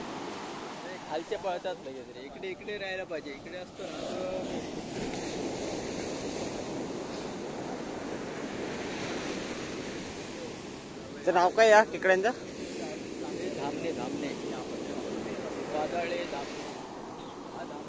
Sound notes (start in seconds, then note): 6.1 sea waves sound